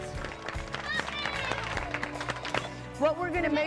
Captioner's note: applause